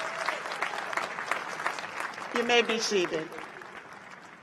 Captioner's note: cheers and applause